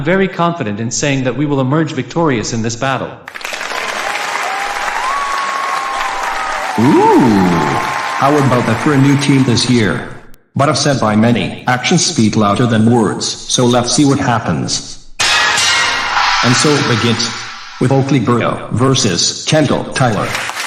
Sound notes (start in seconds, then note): 3.3 audience cheering